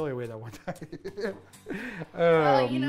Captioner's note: laughing